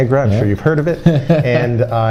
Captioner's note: laughs